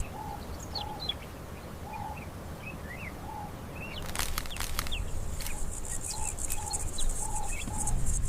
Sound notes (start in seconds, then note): 4.1 birds chirping